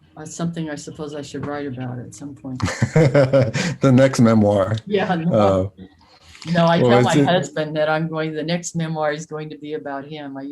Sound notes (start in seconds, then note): 2.6 laughs